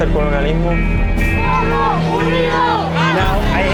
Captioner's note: protesters protesting in Spanish